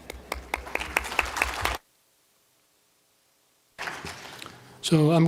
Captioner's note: applause